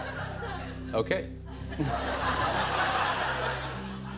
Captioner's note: laughter